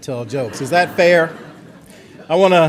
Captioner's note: audience laughter